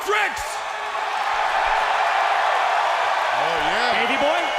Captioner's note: crowd cheering